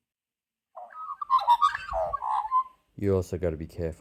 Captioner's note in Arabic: يغني العقعق